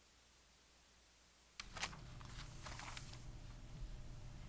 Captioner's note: pages rustling